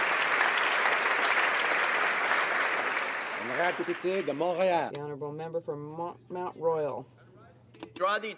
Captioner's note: applause